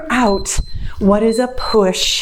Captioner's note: timer beeps